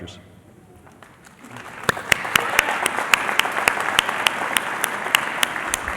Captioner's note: applause